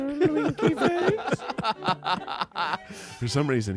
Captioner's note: everyone laughs